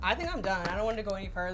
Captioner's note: tray taps